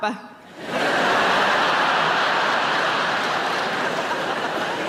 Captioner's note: audience laughing